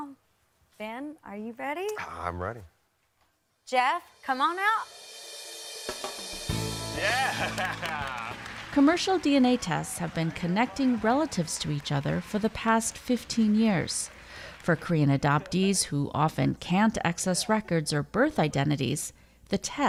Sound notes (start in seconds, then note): 11.9 applause